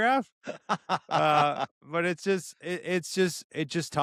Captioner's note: laughs